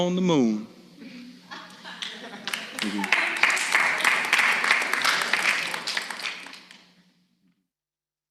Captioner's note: applause